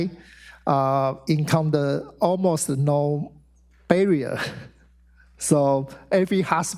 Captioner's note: laughs